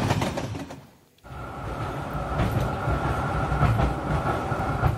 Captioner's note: train tracks